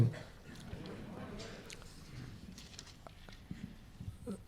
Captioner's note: crowd murmuring